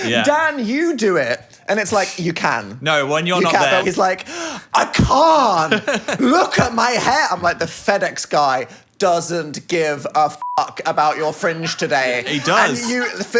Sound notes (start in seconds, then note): 10.4 beep